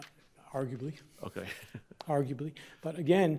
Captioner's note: chuckles